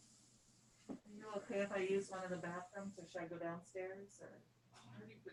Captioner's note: distant speaking